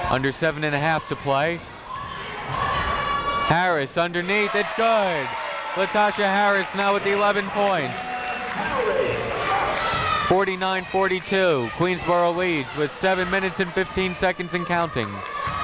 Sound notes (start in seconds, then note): 1.8 people shouting in the crowd